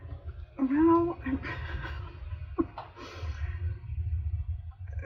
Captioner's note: laughs